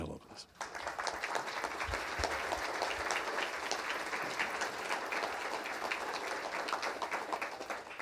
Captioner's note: applause